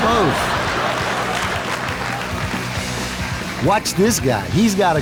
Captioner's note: applause and laughter from the audience